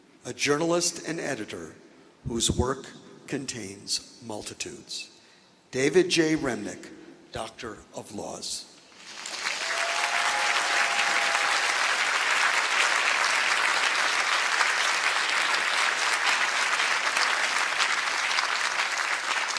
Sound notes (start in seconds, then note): 9.2 applause